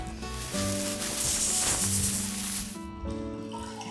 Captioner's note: grass rustling; straw slurping